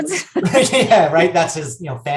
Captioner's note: laughing